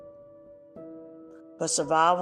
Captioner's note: pause